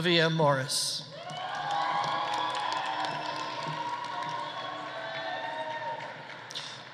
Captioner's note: audience cheering; audience applauding